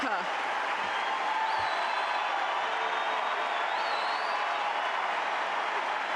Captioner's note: applause